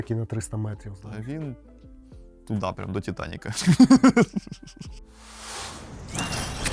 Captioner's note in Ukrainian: сміх